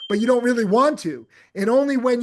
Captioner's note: bell dinging